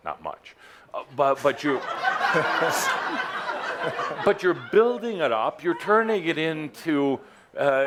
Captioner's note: laughter